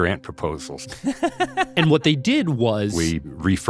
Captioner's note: laughs